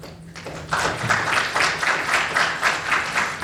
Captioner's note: applause